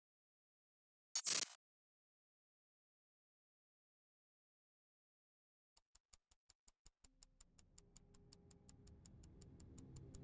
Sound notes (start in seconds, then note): 5.8 clock ticking